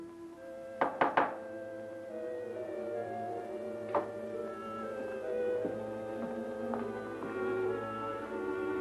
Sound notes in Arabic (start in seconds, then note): 0.8 يطرق الباب; 1.4 موسيقى مشوقة